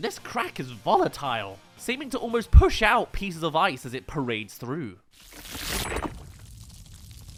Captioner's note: parading crack